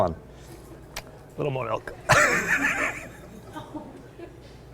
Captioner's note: laughs